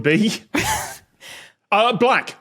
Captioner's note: wheezes